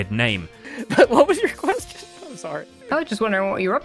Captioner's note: laughing